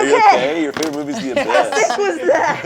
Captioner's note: laughs